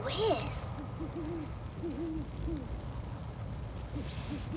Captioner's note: owl hooting